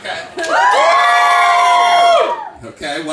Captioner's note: audience screams